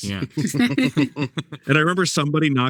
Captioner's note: panelists chuckling